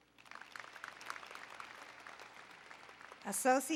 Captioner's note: applause